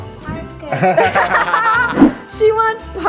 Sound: laughing

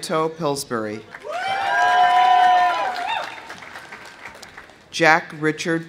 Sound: audience applauding; audience cheering

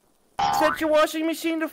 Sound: boing

